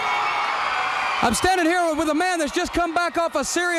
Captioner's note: crowd cheering